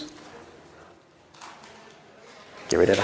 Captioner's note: audience chattering